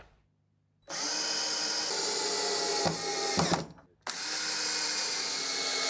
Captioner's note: drilling in screws